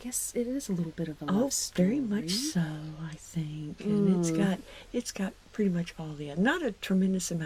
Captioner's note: hmmm